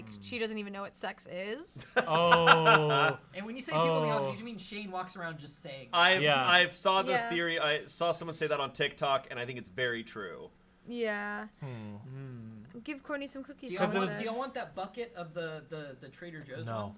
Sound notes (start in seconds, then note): 1.8 laughs